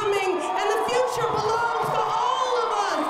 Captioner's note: cheering and applause